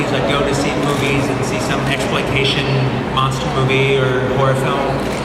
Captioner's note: none